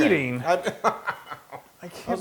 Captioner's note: laugh